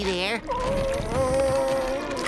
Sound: moaning

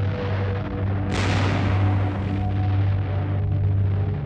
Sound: tank firing

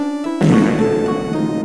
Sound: cringe Ass Fucking Fard Sound Effect

